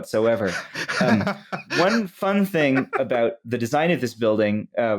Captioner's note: laughs